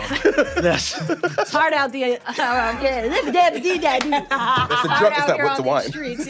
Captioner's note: stammering